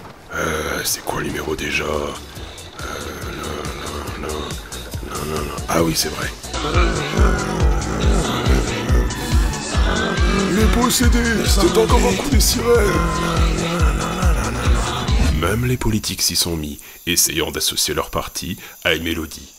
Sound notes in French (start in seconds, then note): 6.4 grogne; 13.2 continue de grogner